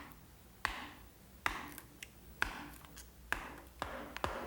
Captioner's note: hammer clacking